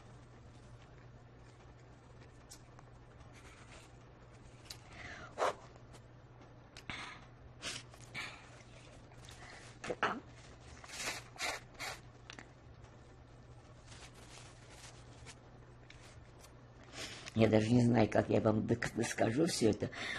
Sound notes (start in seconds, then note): 4.8 sighing; 10.9 sniffling